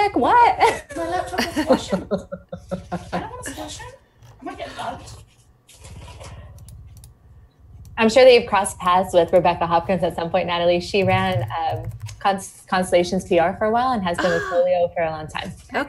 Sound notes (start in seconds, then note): 1.7 people speaking in background